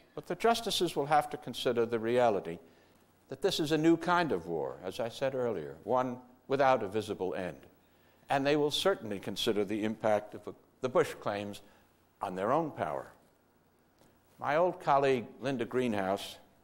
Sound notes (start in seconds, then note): none